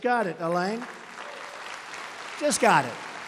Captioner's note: applause